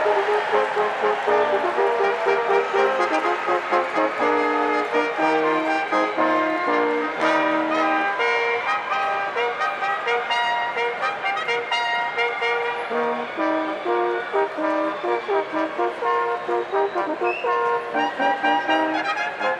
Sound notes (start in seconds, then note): 1.4 applause